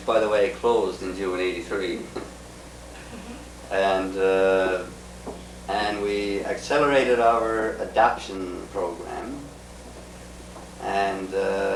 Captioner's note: laughs